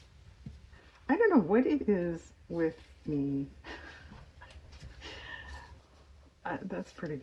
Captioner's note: laughs